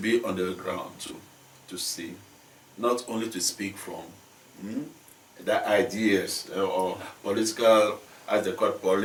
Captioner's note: mmm